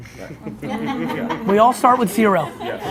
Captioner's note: laughing